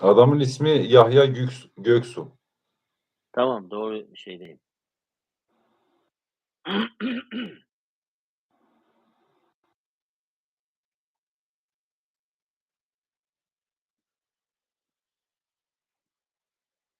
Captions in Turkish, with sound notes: Adamın ismi Yahya Göksu. Tamam doğru şeydeyim. [öksürme] [boğazını temizler]